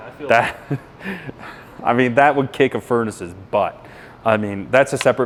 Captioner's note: laughs